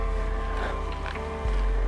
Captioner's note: Fred scoffs